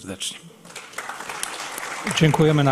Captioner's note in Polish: oklaski